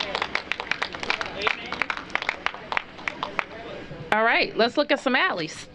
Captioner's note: applause